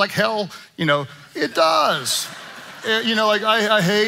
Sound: congregation laughing

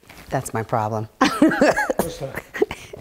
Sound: laughing

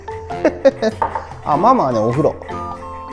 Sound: laughs

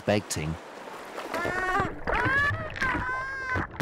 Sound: Mara cries

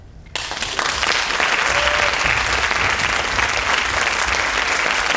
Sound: audience applauding and cheering

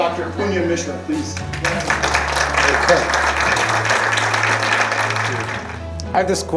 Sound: clapping

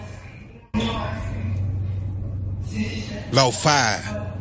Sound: tv noise

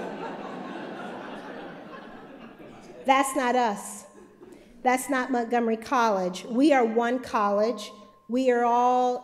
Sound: laughter

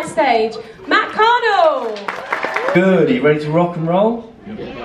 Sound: audience applauding

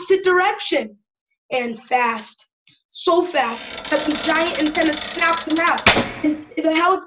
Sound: snap

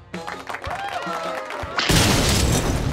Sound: cheers and applause

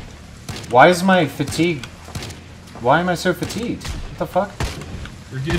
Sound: wines some more

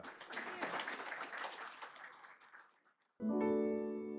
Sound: audience applauding; bright instrumental music

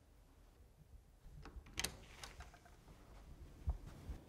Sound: door handle pressed down

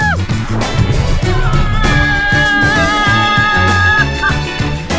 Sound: screaming; upbeat music

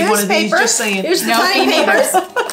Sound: laughing

